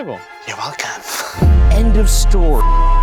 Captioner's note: deep tense music; laughing